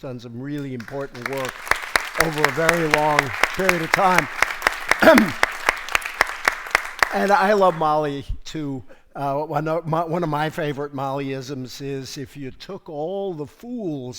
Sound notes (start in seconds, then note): 4.4 audience applauds